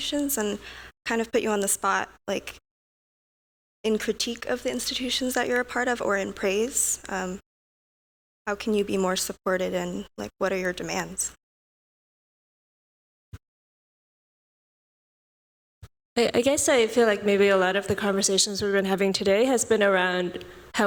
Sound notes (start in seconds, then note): 11.0 audio out